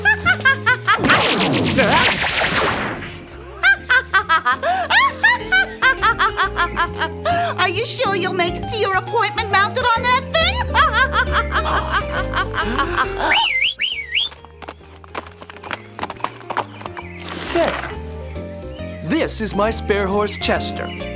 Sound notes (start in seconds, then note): 0.2 cackles; 13.2 whistles; 13.5 horse gallops